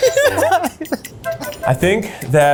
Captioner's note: all laugh